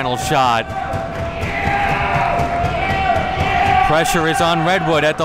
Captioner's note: crowd cheering